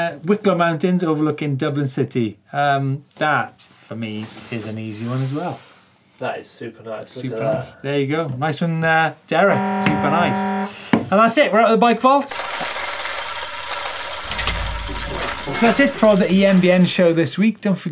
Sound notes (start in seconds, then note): 9.4 alarm sound; 12.3 gearing sound